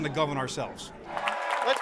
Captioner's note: cheers and applause